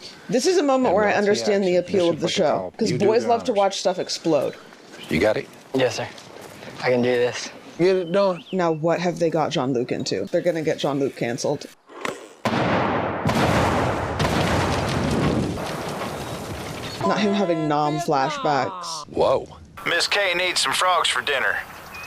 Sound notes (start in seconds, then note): 12.4 explosions